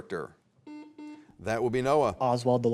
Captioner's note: buzzer beeps